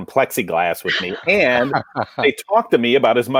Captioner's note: colleagues laugh